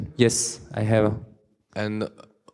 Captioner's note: voiceover